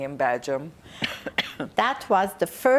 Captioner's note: coughing